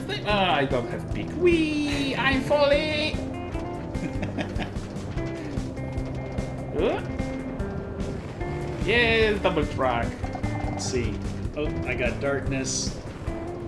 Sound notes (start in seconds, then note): 3.3 laughs